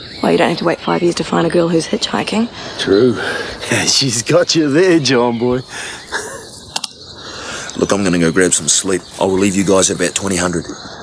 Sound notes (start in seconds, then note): 5.6 laughs